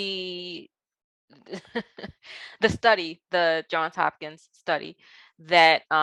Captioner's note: chuckles